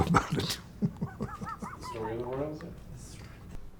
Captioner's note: chuckling